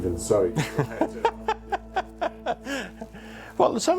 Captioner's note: laughs